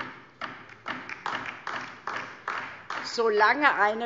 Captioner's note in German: Beifall DIE LINKE